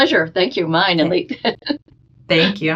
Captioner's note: laughing